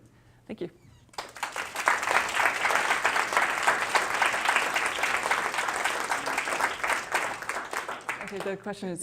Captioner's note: applause